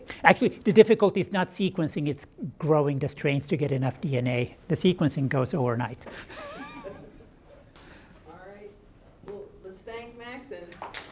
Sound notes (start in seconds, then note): 6.0 laughs; 10.9 audience applauds